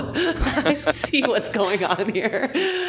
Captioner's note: laughing